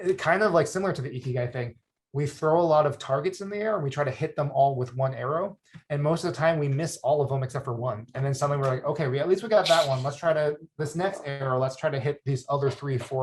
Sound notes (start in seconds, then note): 9.6 chuckles